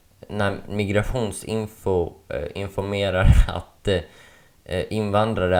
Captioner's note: laugh